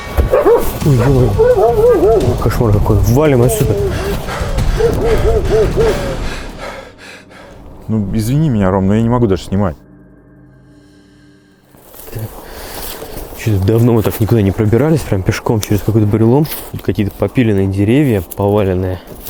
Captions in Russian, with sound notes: Ой, кошмар какой, валим отсюда. [тяжелое дыхание] Ну, извини меня, Ром, я не могу дальше снимать. Что-то давно мы так никуда не пробирались пешком через какой-то бурелом. Тут какие-то попиленные деревья, поваленные.